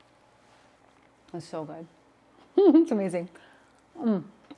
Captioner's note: chuckles